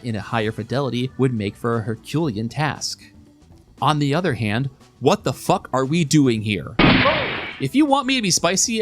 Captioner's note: gunshot